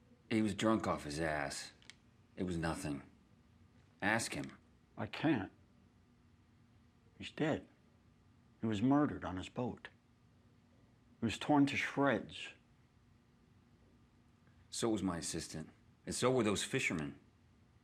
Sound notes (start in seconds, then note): none